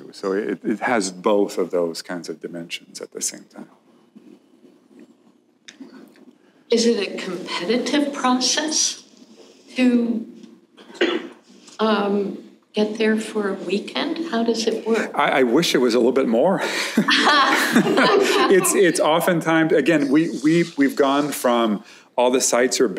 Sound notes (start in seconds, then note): 16.9 laughter